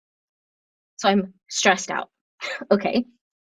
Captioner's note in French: rires